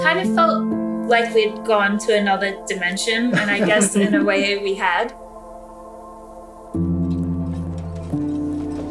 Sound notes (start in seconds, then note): 3.2 all chuckling